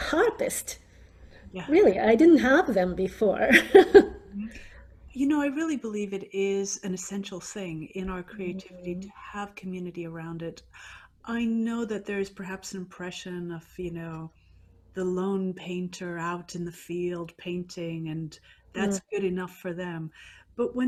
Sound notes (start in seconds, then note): 3.5 laughs